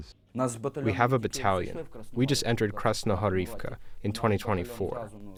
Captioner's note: through translator